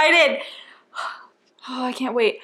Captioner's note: inhale and exhale